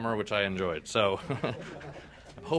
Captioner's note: laughter